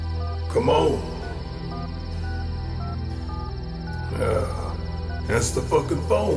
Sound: dialing, phone rings

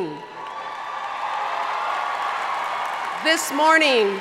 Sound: audience cheering and applauding

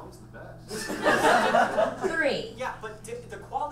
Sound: audience laughs

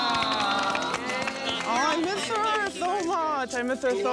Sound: queens clapping

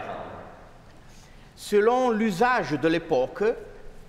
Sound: speaking french

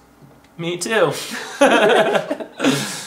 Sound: laughing

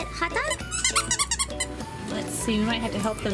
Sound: toy squeaks

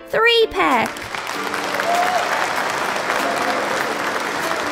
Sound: clapping

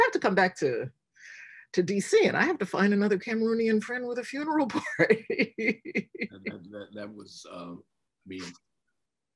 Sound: laughs

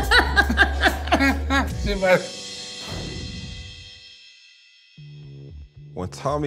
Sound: laughter

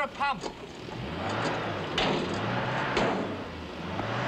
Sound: engine revs

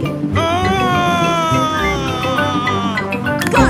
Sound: screaming

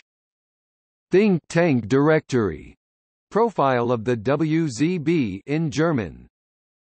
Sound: in German; in German

